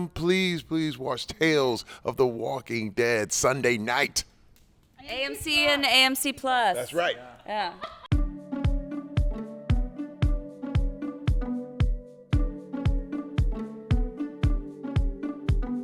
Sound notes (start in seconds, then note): 7.6 laughing